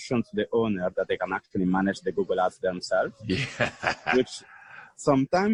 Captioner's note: laughter